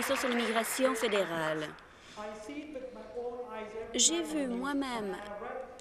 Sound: some Applause

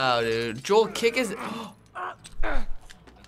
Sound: gasps

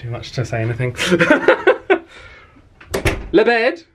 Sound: laughs

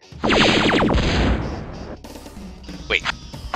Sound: laser and whooshy sounds can also be heard; cannon fires

